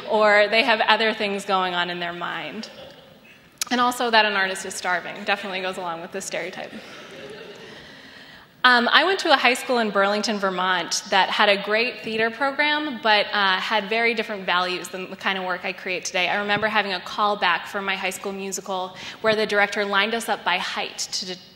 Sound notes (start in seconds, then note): 6.7 laughter